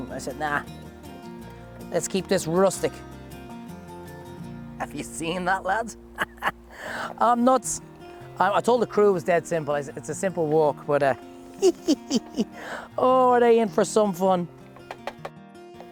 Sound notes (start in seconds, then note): 11.4 laughing